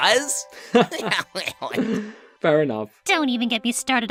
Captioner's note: laughing